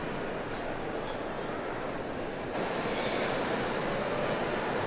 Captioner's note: attendees chattering